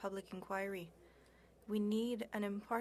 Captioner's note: speaking french